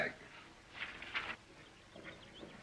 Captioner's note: paper shuffling; birds chirping, hooves clopping